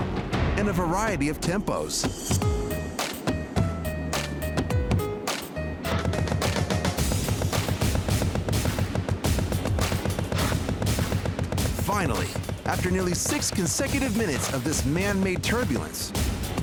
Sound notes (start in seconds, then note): 3.0 slow thudding; 5.9 rapid thudding